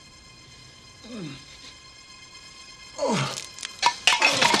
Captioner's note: grunts